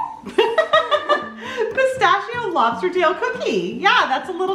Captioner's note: laughs